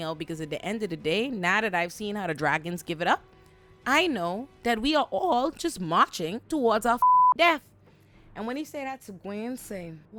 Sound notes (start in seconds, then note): 7.0 beep